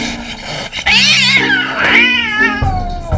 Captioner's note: Licorice yowling